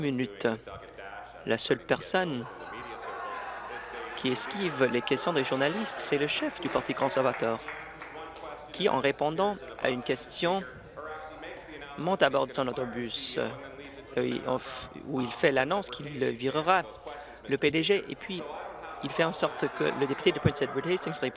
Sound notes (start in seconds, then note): 8.2 laughter